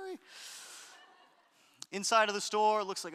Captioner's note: audience laughter